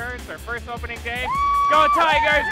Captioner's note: scream